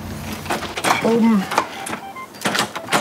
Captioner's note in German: Piepsgeräusche